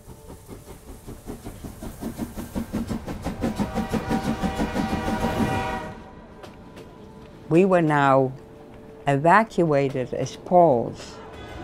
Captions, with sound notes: [train whistle blows] We were now evacuated as Pauls.